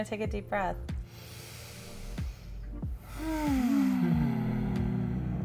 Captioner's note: all take deep breath